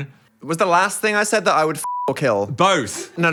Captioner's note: beep